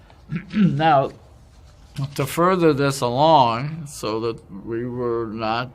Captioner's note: cough